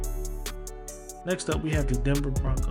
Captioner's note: voiceover